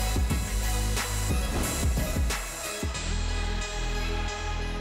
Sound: mellow hiphop music; air whooshes

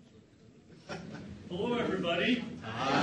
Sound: audience member laughs

